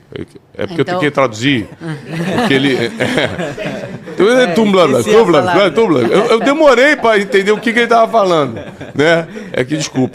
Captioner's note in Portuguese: risadas